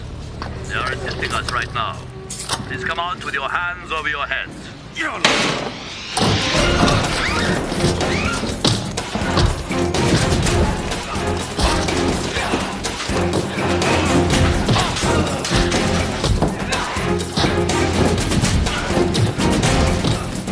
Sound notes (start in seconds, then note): 1.9 cocks gun; 6.9 Joanna screams; 15.8 thuds